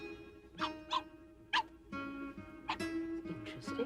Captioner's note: William barking